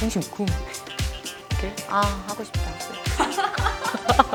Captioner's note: laugh